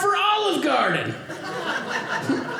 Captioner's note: audience laughing